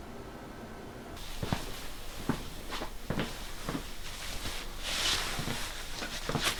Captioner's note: footsteps